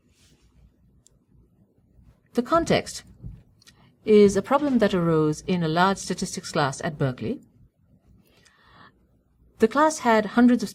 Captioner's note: pause